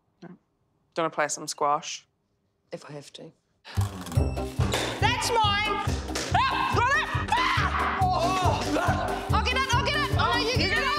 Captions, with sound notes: Do you want to play some squash. - If I have to. That's mine. (screaming loudly) - I'll get it.